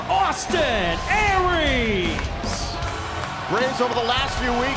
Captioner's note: crowd cheering